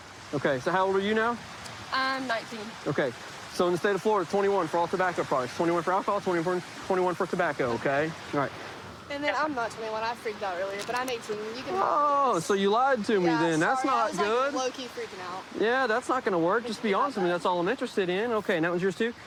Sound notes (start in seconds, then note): none